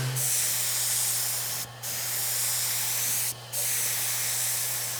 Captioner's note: spray paint hisses